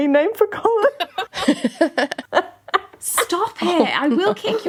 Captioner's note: laughing